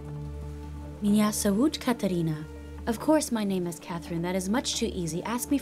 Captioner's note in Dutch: spreekt Russisch